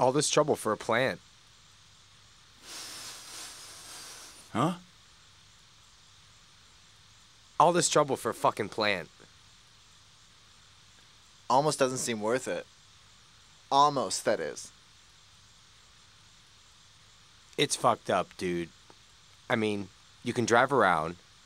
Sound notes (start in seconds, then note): 2.6 inhales deeply